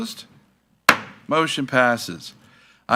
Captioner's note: gavel thuds